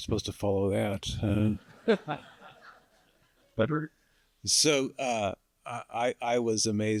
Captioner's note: laughter